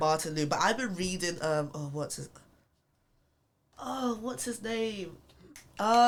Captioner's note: clicks fingers